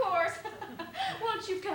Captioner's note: laughs